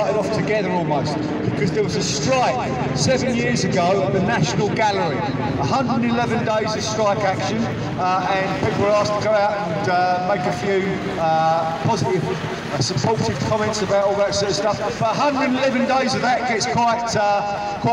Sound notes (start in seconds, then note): none